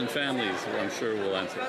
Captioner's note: some Applause